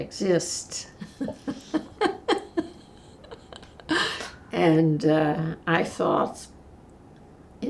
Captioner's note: laughing